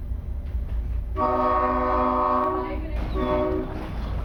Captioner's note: horn